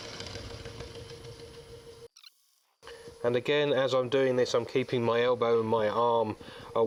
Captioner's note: machine and cutting noises